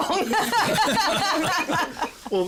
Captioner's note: laughter